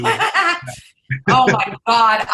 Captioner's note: laughs